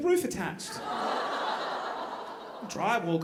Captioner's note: audience groaning